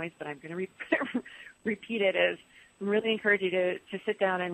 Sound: laughs

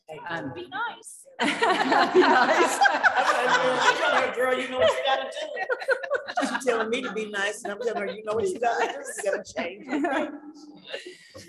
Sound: chuckling

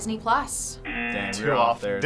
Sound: buzzer rings

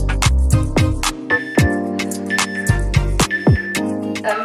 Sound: timer beeping

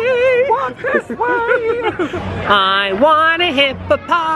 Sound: laughs

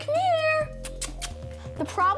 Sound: clicking tongue

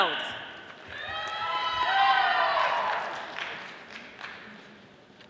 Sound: audience applauding

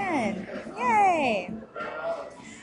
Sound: background voices

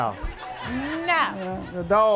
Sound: laughter

